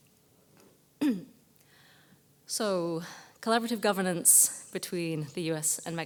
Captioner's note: cough